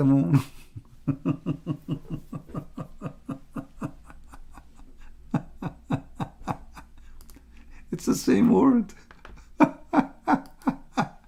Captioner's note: Ketawa